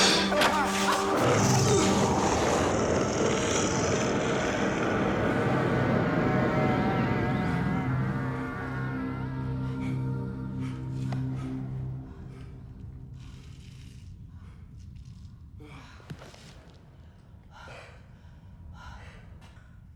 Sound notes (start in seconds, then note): 0.1 groans; 0.1 key clinks; 6.6 faint screams; 15.8 both sigh and pant